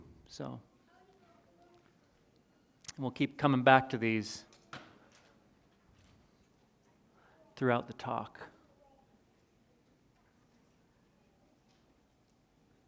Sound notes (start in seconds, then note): none